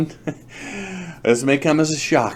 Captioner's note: laughs